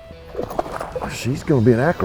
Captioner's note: water splashing